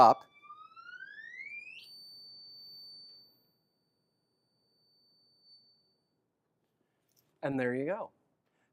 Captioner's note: high frequency sound